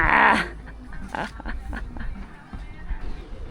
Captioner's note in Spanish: risas